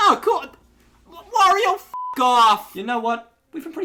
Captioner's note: beeps